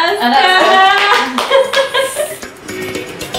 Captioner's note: laughs